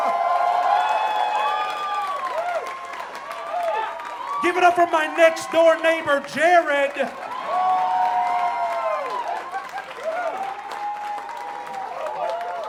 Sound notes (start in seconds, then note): 0.3 audience cheering; 8.0 audience cheering